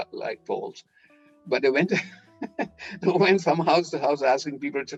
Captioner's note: laughing